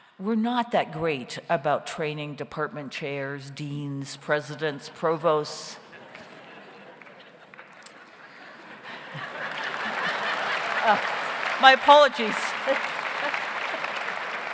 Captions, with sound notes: We're not that great about training department chairs, deans, presidents, provosts. (audience laughs) (audience applauds) My apologies. (laughs)